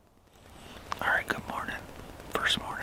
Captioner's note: whispers